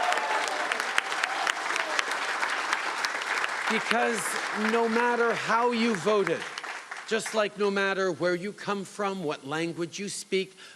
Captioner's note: cheering and Applause